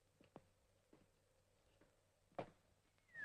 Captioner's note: Harry whistles